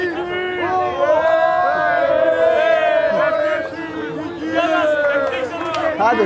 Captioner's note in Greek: χειροκρότημα